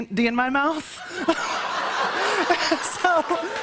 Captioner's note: laughter